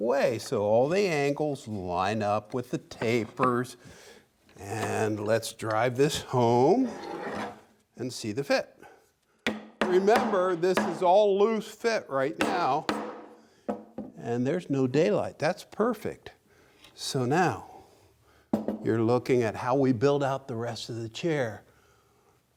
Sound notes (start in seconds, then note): 9.4 hammer hitting; 12.4 hammer hitting